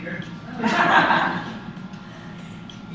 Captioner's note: laughs